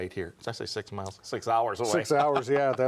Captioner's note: laughs